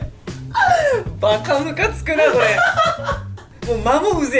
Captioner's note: laughs